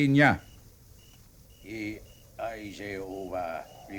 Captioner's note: speaking in foreign language